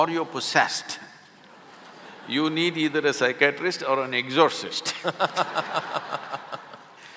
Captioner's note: laughter; laughter